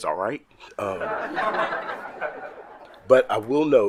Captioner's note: colleagues laughing